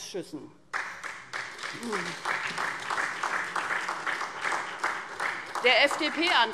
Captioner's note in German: Beifall SPD